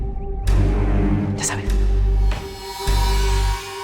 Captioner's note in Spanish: En voz baja